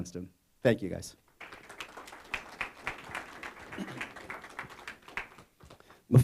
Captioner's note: applause